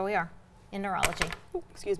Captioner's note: pen knocking